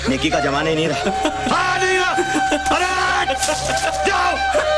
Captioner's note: Shiva laughs